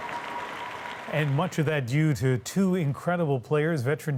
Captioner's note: cheers and Applause